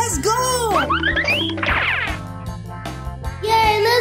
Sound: feet squeaking

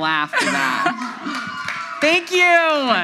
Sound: audience laughs

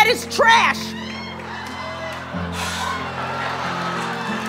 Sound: crowd laughter

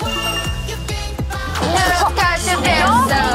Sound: very aggressive

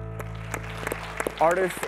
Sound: applause

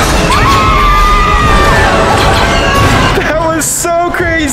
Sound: riders screaming

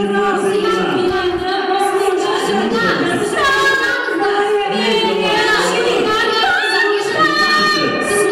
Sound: yelling in Russian and Kazakh

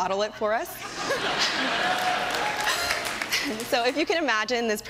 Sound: laughter

